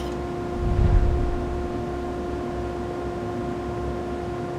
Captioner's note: air whooshes